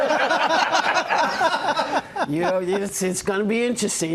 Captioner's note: laughter